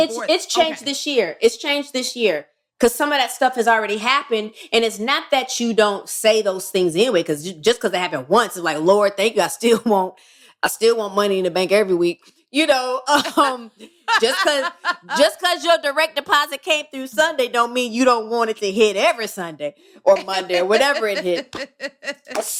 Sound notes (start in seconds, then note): 13.8 laughter